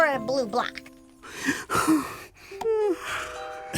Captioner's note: sighs; yawns